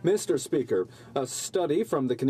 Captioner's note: speaking French